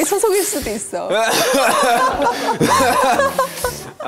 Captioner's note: cough...!